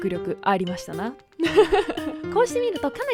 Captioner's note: laughing